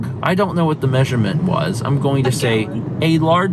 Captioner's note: laughing